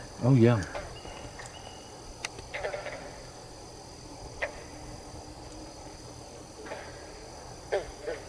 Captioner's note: katydids forest sounds